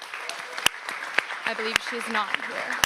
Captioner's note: audience applauds